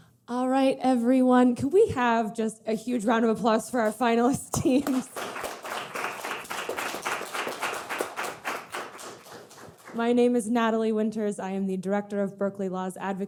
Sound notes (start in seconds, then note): 4.5 audience clapping